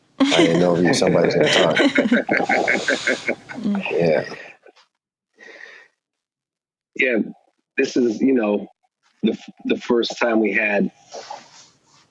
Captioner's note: laughs